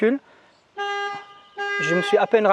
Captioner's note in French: Alarme